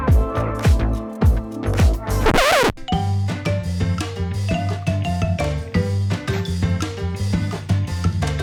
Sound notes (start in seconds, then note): 1.7 record scratch